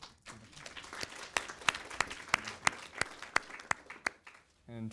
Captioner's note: audience applauds